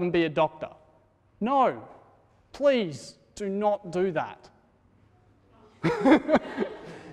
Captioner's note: laughter